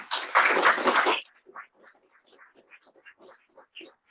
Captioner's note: audience applauds